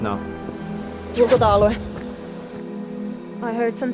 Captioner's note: speaks in Muinein language